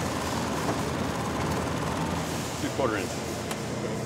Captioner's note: sowing machine buzzing